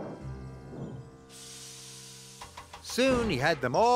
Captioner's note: wheesh!